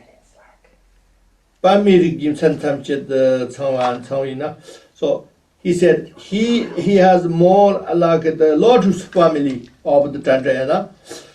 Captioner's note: tibetan